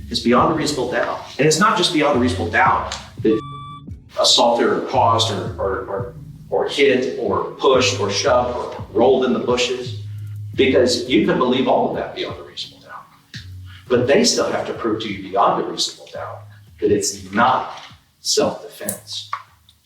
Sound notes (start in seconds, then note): 3.2 beep